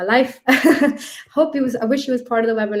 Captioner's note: speaker laughing